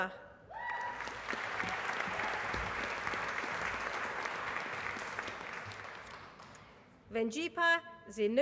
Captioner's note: applause